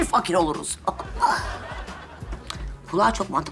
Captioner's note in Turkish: Gülme efekti